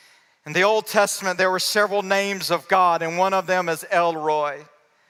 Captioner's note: none